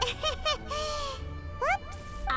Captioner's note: giggles